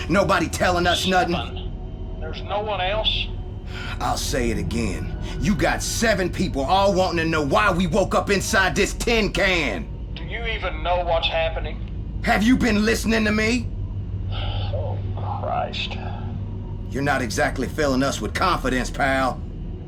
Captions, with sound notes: Nobody telling us nothing. - There's no one else? - I'll say it again, you got seven people all wanting to know why we woke up inside this tin can. - Do you even know what's happening? - Have you been listening to me? (Major Collins sighing) - Oh Christ. - You're not exactly filling us with confidence, pal.